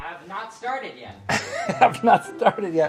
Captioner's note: laughing